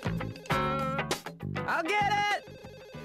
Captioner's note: phone ringing